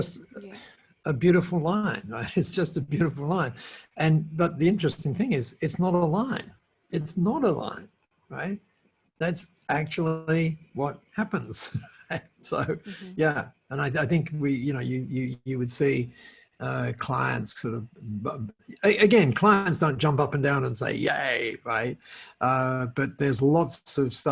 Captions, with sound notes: And you, I mean, that's just a beautiful line. It's just a beautiful line. And, but the interesting thing is, it's not a line it's not a line. Right? That's actually what happens. (laughs) So yeah, and I think we, you know, you, you, you would see clients sort of again, clients don't jump up and down and say, yay, right?